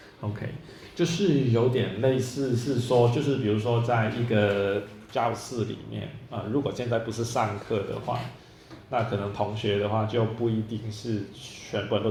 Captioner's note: speaking in Chinese